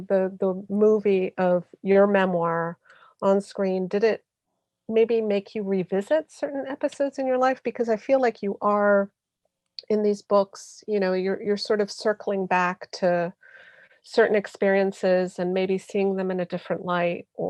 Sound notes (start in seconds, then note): none